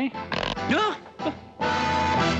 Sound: exclaims

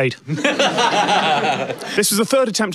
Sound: giggles

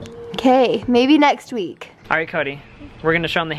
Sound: voiceover

